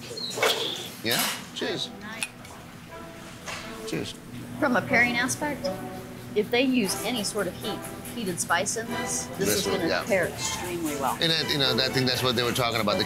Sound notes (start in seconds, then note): 1.5 glasses clinking